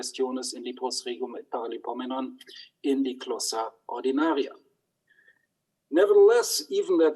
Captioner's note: speaks in foreign language